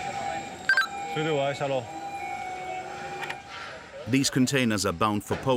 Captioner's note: speaking foreign language